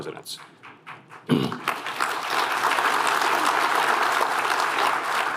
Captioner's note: applause